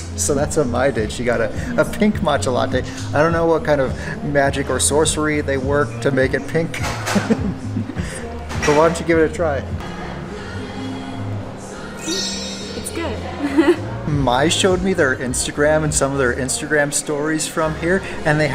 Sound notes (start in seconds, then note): 7.1 laughs; 12.0 twinkling sound; 13.2 laughs